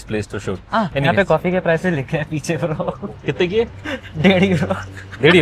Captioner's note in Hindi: हंसी